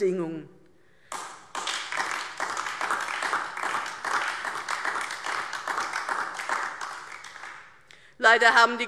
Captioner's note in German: Beifall DIE LINKE